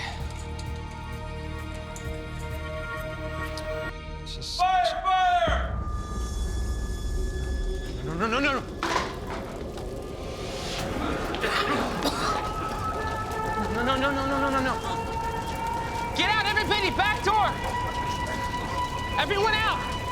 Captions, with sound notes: is this-- - Fire! Fire! - No, no, no, no! (workers coughing) No, no, no, no, no, no, no, no. Get out, everything, the back door. (alarm blaring) Everyone out!